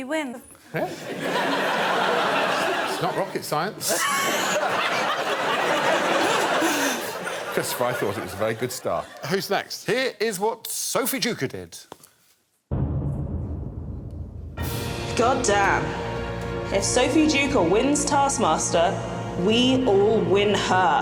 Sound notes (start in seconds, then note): 5.6 laughter; 14.3 suspenseful music playing